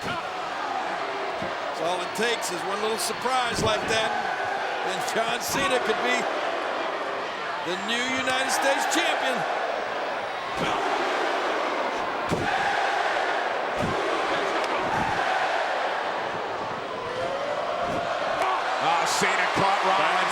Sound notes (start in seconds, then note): 0.2 blow thudding; 10.6 blows thudding; 10.6 crowd cheering